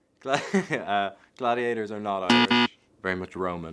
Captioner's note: Paul laughs; buzzer buzzes